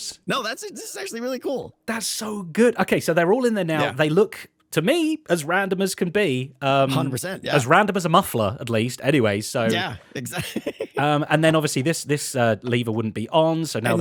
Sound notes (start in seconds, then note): 9.6 laughs